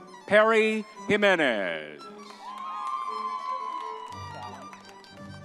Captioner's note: crowd cheering